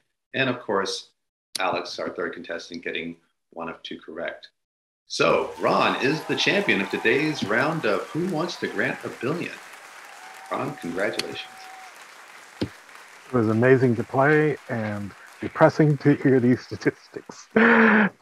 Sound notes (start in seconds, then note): 9.8 audience applauding